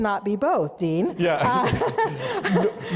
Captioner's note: laughs